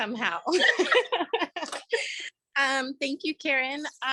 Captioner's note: laughs